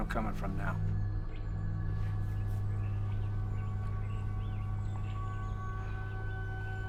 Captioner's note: tense music; birds singing